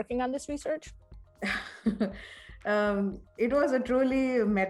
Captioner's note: chuckles